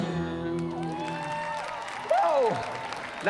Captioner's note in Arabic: هتاف، تصفيق